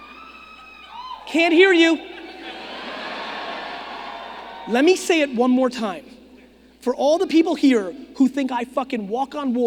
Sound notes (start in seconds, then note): 0.0 audience screaming; 2.5 audience laughing